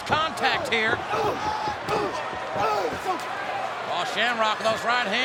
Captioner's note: Shamrock grunts